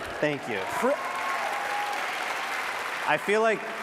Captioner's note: applause